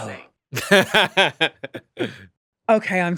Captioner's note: laughs